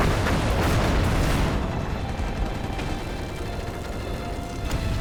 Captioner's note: gunfire